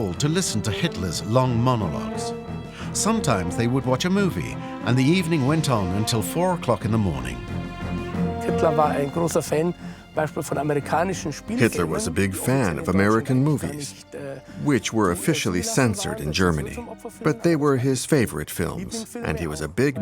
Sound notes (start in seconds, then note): 11.6 German spoken audio